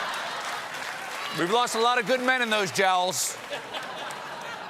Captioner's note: laughter